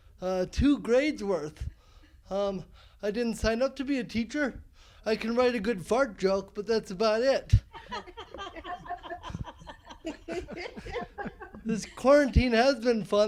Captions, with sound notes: Two grades worth. I didn't sign up to be a teacher, I can write a good fart joke but that's about it. (laughing) This quarantine has been fun though,